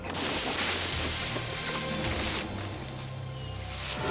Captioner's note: branches break